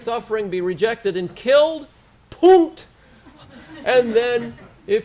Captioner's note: foreign language